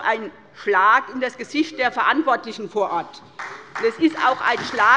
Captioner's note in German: Beifall bei der SPD und der LINKEN